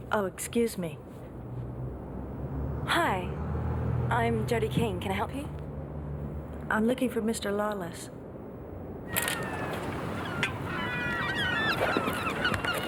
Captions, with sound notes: - Oh excuse me. - Hi. I'm Jodie Keane. Can I help you? - I'm looking for Mr. Lawless. (birds cawing)